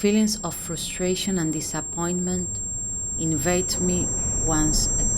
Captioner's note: high pitched sound